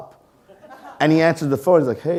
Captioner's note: audience laughing